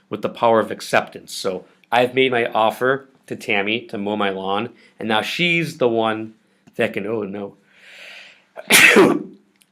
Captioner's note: sneezes